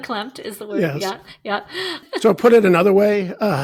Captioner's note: chuckling